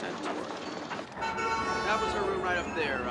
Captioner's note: honking